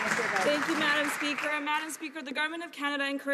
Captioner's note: some Applause